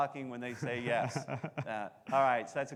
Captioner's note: laughing